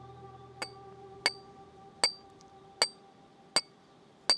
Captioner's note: metal clanging